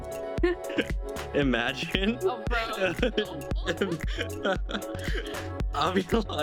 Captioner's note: laughs